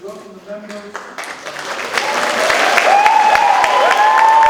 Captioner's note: audience cheers